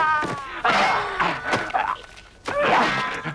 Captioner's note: raider screams; both grunting